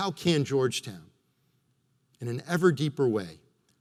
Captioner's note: none